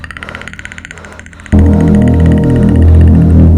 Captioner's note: normal bird noises